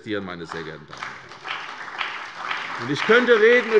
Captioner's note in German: Beifall bei der CDU und dem BÜNDNIS 90/DIE GRÜNEN